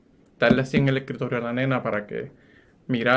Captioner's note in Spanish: sonido de tocar